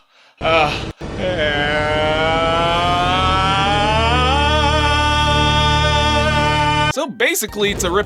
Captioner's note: screaming slowly turns into the THX intro